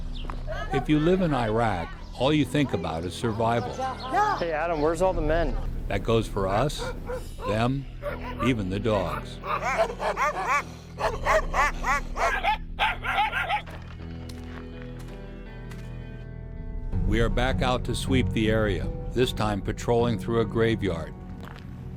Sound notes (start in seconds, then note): 0.3 voiceover; 6.1 voiceover; 9.7 dogs barking; 17.3 voiceover